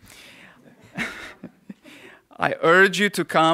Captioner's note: laughter